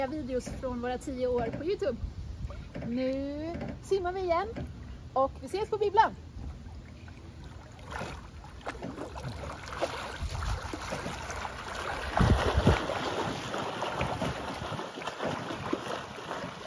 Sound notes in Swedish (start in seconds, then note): 8.5 mer plaskande i vatten